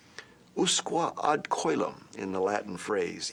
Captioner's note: speaking foreign language